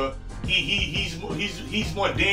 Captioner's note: stutters